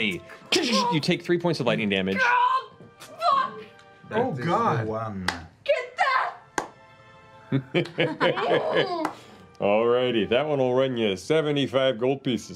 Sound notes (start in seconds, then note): 3.1 yelps